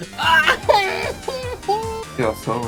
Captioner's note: cries in chilean